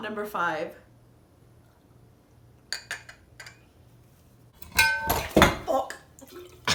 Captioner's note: the sound of my entire water bottle dropping and spilling